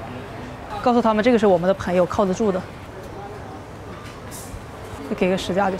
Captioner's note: speaking in Chinese